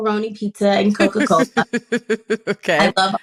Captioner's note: chuckles